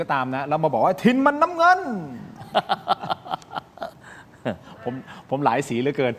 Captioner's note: laughter